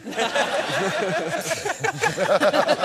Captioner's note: laughter